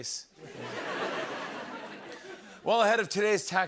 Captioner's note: laughter